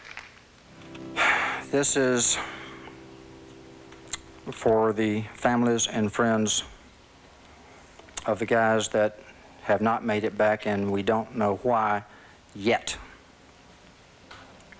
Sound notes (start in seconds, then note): 1.2 sighs